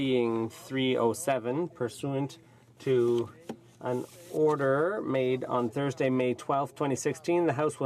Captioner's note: speaking French